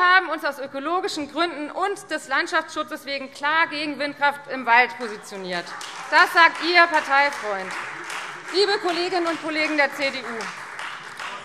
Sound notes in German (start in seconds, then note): 5.0 Beifall Freie Demokraten